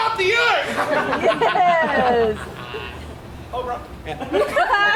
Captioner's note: Oberon laughs; audience laughs